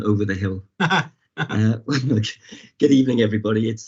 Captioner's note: laughing